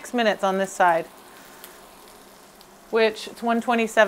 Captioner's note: fish sizzling